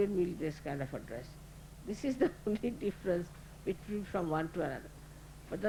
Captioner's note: Shri Mataji laughing